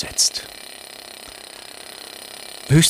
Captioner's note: rattling